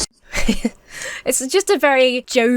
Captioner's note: chuckles